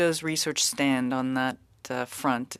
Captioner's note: speaking french